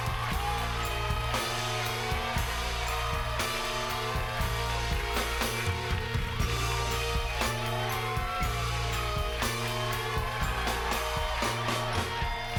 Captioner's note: cheers and applause